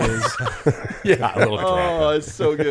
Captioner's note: everyone laughs